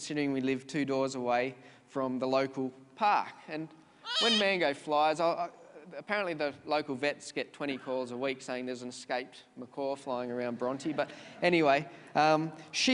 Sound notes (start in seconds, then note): 4.0 bird screeches